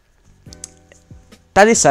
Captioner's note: smacks lips